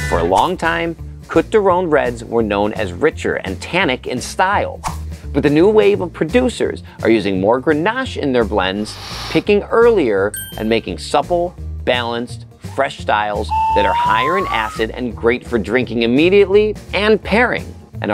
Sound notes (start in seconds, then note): 13.4 slide whistle blows